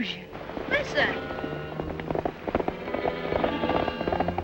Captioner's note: hoof beats thunder